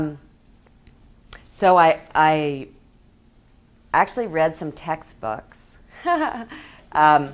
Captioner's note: laughs